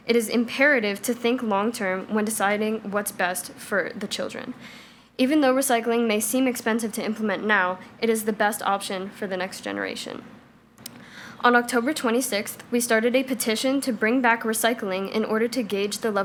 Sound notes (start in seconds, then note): none